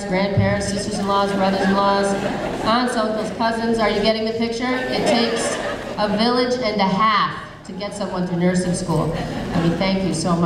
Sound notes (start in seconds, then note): 0.8 audience laughing